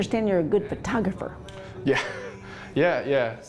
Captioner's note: laughs